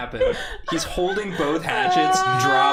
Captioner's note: screaming